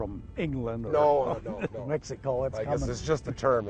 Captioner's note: laughs